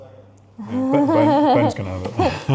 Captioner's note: laughs